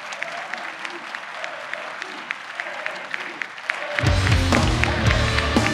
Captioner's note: Audience chanting: AMD! AMD! AMD!